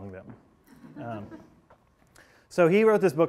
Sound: class laughing

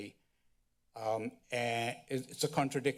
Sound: stuttering

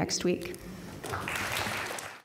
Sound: applause

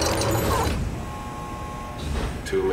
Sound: buzzing

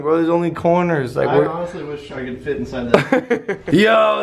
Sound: Logan laughs

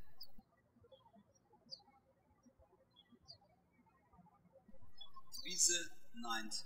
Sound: birds chirping

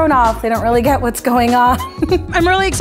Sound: giggles

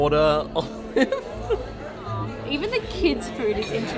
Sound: laughing

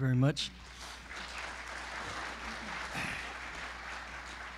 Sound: audience applause

